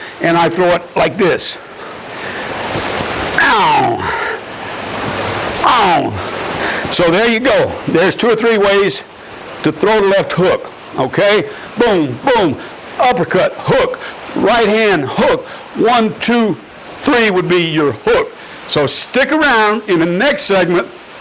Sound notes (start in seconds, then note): 3.4 grunting